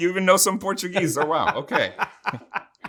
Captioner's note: laughing